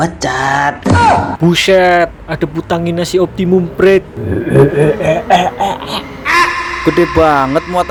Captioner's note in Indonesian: tertawa